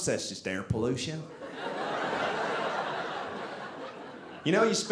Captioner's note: audience laughing